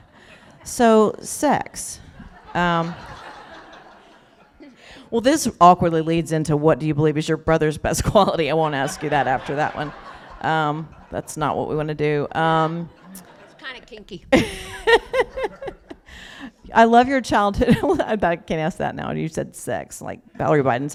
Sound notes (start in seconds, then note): 2.2 laughter; 8.7 laughter; 14.8 laughs